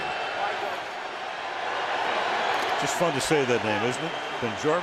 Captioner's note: crowd cheering